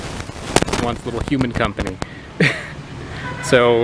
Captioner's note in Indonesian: tertawa